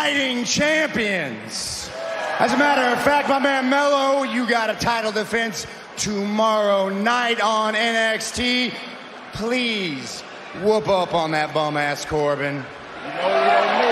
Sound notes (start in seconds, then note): 5.3 cheering